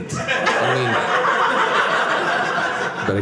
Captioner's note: audience laughing